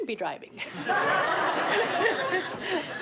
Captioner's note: laughter